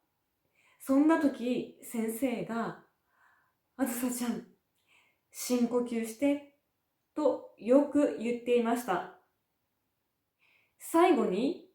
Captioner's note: take a deep breath